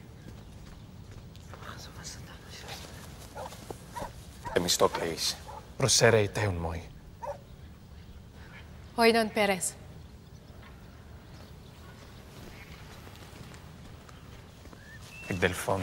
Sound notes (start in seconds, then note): 1.8 whispering in foreign language; 4.6 friend speaking in foreign language; 8.9 partner speaking in foreign language; 15.5 advisor speaking in foreign language